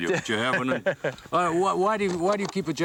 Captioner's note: laughing